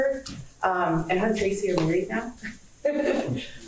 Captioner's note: laughs